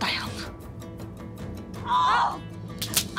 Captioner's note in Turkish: İlbilge bağırıyor